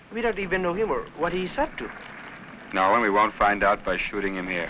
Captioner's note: none